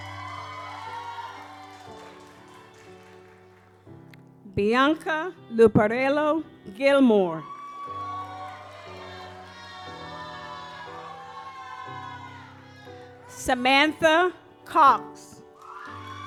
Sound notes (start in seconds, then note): 0.0 audience applauds; 7.4 audience applauds